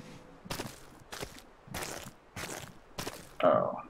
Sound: squelching footsteps

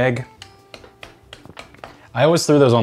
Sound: spoon tapping

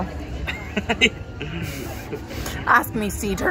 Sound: laughs

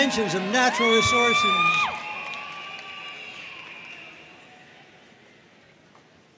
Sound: audience cheering and applauding

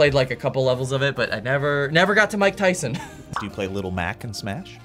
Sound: laughs

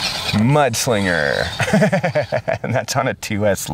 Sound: narrator chuckling

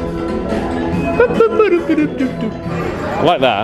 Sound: mimics beeping music; upbeat background music

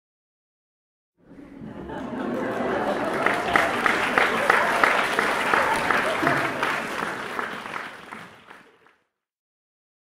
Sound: sound of applause and laugh

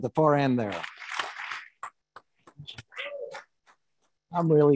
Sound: attendees applauding

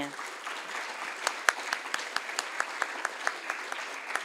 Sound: audience applauds

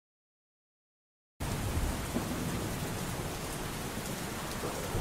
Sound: heavy rain

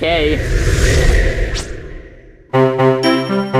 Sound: air whooshing; upbeat music

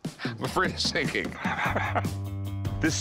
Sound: laughs

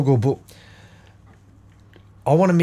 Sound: silence

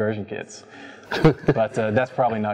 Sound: laughs

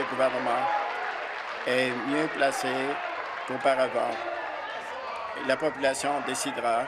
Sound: applause

